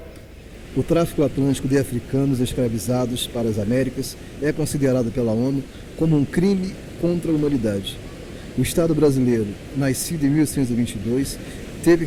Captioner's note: speaking portuguese